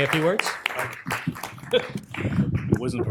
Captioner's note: applause